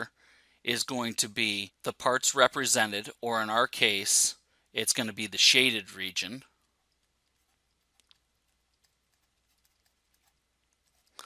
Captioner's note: pause